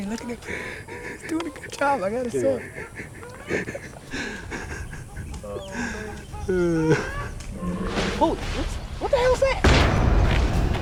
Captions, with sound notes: HE'S DOING A GOOD JOB, I GOT TO SAY. [ LAUGHTER ] OH, MAN. [ ANIMAL GROWLS ] HOLY SMOKES! WHAT THE HELL'S THAT?